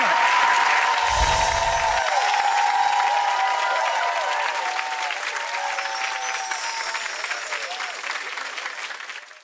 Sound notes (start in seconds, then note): 0.2 audience applause; 1.0 tinkling bells